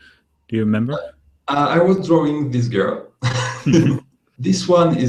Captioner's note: laughing